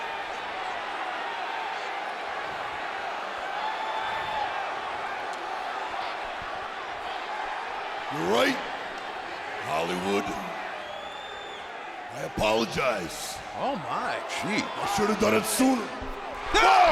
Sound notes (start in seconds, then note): 3.7 audience cheers